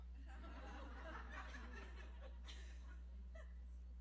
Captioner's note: laugther